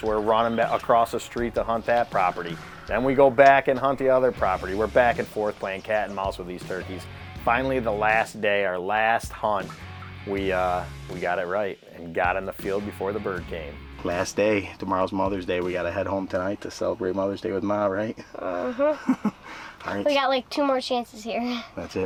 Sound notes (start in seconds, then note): 18.2 chuckles